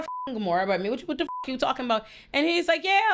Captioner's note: beep